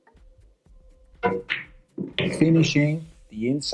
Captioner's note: balls hitting